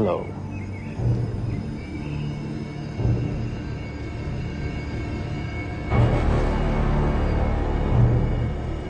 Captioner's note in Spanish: Trinos